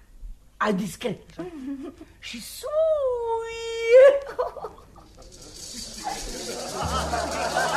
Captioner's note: laughter